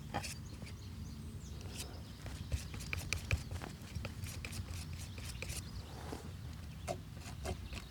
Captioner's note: birds chirping